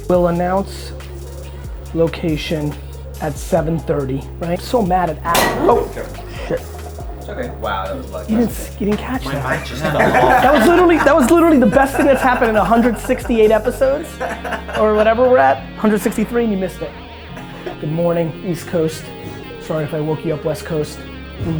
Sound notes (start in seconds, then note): 5.3 crashing sound; 9.3 group laughter